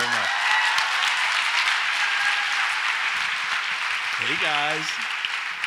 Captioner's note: audience applauds and cheers